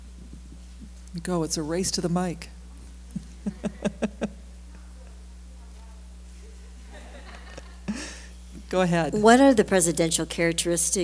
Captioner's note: chuckle